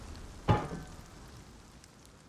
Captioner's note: konk